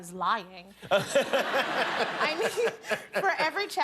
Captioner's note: laughter